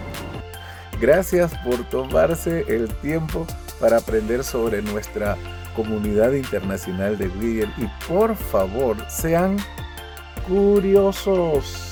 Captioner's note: spanish